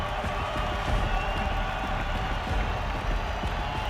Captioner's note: crowd cheering